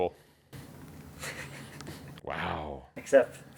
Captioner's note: laughing